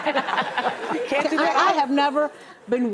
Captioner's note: laughter